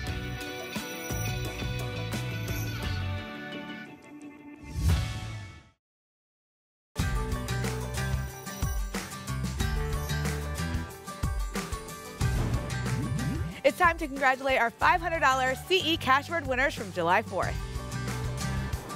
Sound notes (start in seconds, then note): 4.7 whoosh; 12.3 whoosh